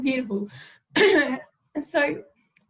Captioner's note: clears throat